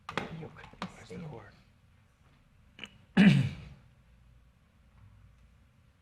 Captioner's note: people chatter quietly